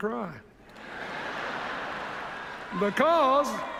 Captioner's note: laughter